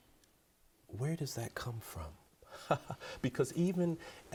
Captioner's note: chuckles